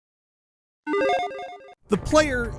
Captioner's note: digital chiming